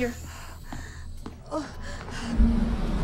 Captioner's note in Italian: lamenti